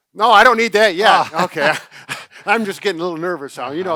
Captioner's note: laughs